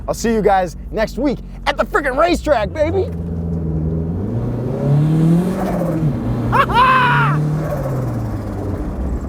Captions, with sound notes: I'll see you guys next week at the fricking racetrack, baby. (car engine revving) (laughs)